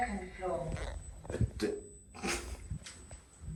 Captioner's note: confused noises